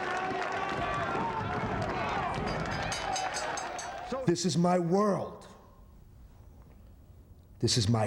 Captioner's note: applause